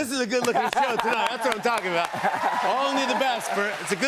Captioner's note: cheers and applause